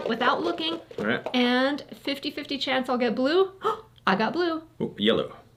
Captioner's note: gasps